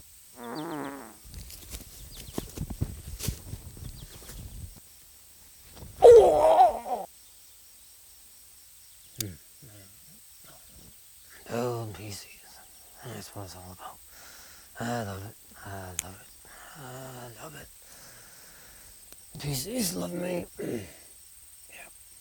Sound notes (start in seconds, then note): 0.4 groans; 6.0 cries out in pain